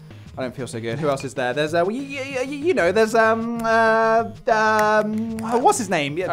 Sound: lots of uh-ing

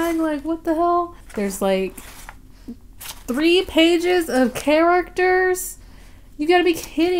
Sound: flips page

